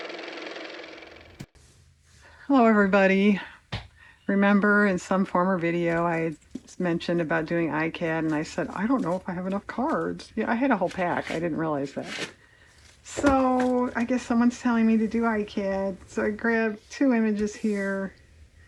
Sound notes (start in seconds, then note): 0.0 car motor